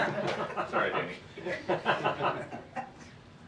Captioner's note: laughter